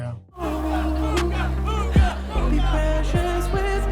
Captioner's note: crowd